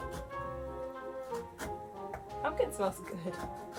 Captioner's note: sawing; laughs